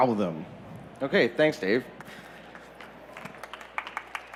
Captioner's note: applause